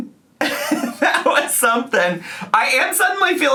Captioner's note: laughs